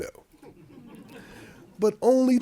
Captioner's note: audience laughing